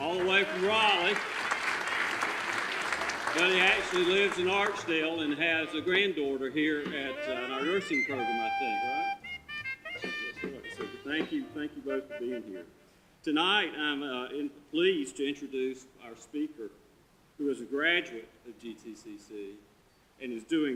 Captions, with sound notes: all the way from Raleigh! (audience applause) But he actually lives in Archdale and has a granddaughter here in our nursing program I think, right? Yeah, so thank you, thank you both for being here. Tonight, I am pleased to introduce our speaker who is a graduate at GTCC and is doing great things